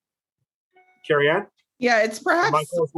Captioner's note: device pinging